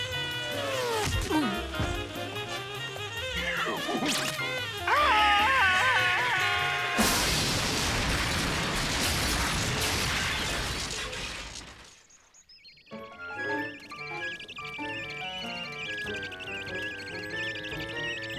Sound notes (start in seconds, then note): 1.3 grunts; 4.8 pink panther screaming